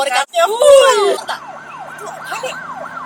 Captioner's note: police siren